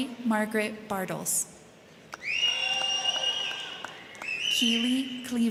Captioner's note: crowd clapping; crowd cheering